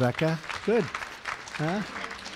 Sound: applause

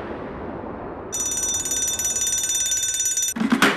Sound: alarm clock

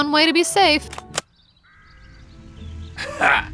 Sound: gun cocks

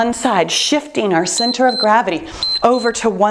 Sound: timer beeps

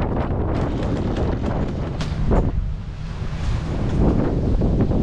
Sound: wind blowing

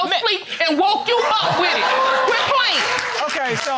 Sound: audience laughs

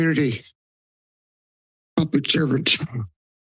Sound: silence

